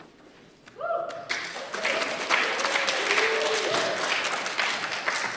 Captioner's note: applause